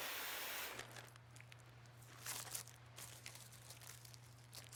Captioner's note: plastic rustling